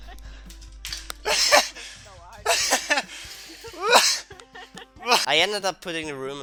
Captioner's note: laughs; laugh